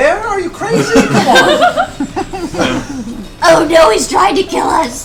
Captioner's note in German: Gelächter